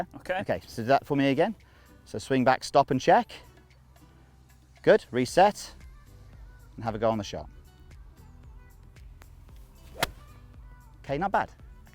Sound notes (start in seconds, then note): 9.6 golf ball hits